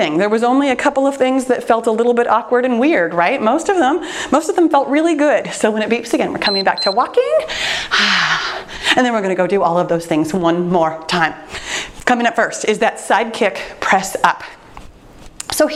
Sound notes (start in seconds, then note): 6.4 timer beeps; 7.5 exhales deeply